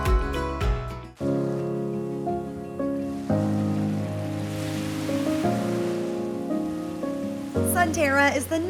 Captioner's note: waves crashing on beach